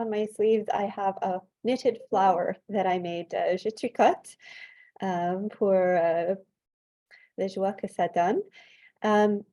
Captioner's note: French